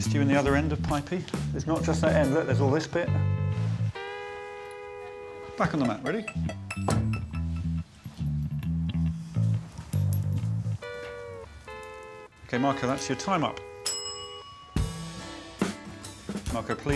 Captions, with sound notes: Marco, can I interest you in the other end of Pipey? There's not just that end, look, there's all this bit. -Back on the mat, ready? -[toy thudding] [upbeat music] Okay, Marco, that's your time up. [bell dinging]